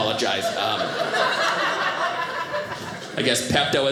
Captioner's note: audience laughing